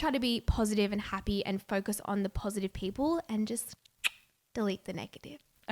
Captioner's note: tongue clicking